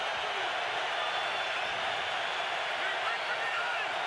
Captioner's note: crowd cheering